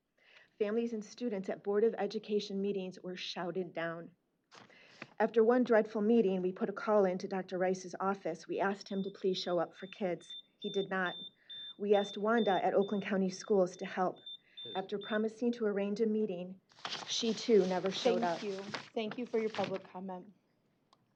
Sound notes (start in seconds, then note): 9.7 beeping